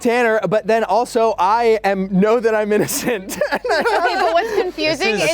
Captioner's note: laughs